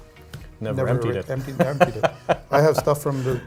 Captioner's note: laughs